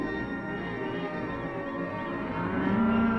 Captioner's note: cattle mooing